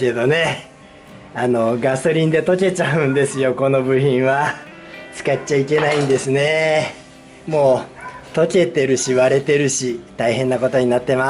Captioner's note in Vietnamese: cười